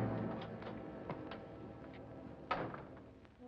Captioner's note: door opens; foreboding music; door closes; whimsical music